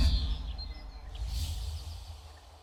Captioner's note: birds chirping